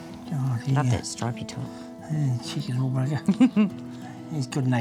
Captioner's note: chuckles